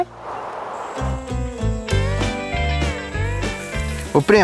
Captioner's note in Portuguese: Ruídos de mata